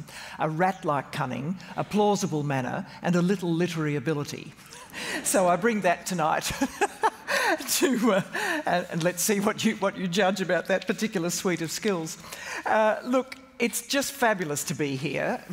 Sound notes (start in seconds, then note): 6.6 audience laughs; 6.9 laughs